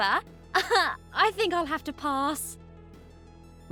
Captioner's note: chuckles